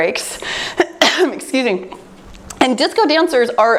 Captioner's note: coughs